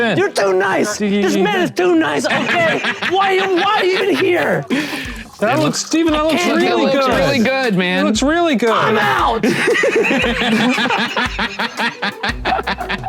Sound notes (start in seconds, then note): 4.8 laughing; 9.3 all laugh